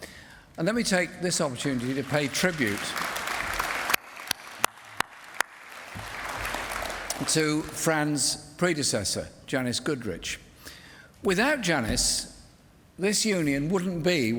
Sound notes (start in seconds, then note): 3.4 applause